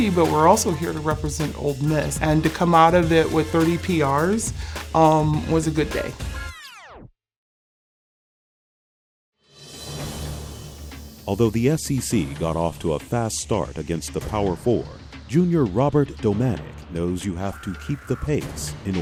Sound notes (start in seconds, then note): 11.4 voiceover